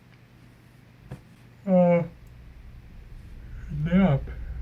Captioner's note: yawning